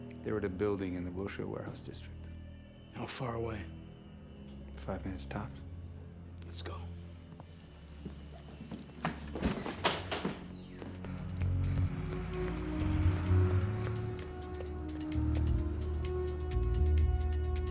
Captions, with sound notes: They're at a building in the Wilshire Warehouse district. - How far away? - Five minutes tops. - Let's go. (Roger pants) (tense music)